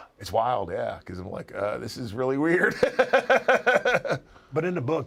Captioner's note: laugh